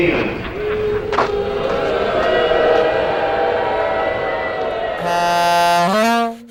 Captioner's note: crowd boos